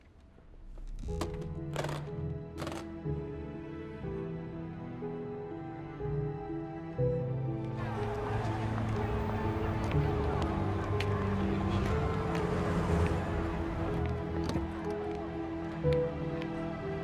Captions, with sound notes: [case clicking shut] [crowd talking] See you in the morning.